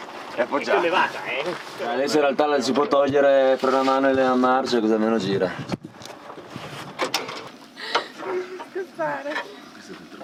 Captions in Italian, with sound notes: - È appoggiata. - È sollevata. Adesso in realtà le si può togliere il freno a mano e le marce, così almeno gira. (rumori metallici)